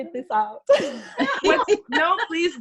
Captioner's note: laughs